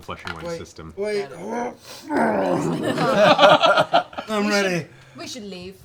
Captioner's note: vomiting noises